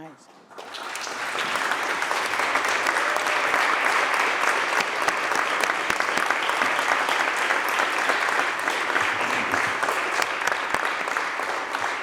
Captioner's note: applause